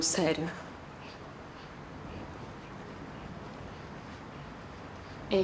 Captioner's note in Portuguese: valentina respirando tensa